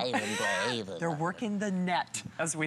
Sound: laughter

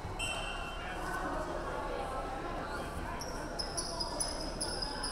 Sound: referee whistling

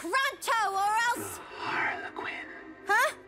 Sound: whispering

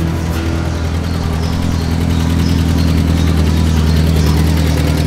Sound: car engine rumbling

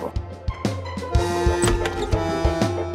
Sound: door opening

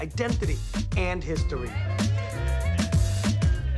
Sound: people cheering

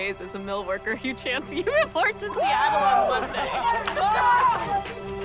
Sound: hugh and kids cheering; uplifting music

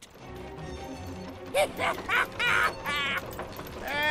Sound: laughing

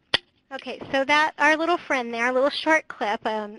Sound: voiceover

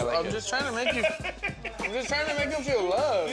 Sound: laughs

